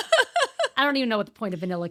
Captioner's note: laughing